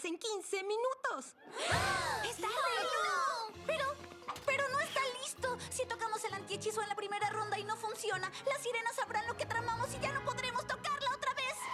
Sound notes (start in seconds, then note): 1.5 gasps all around; 1.6 panicked chatter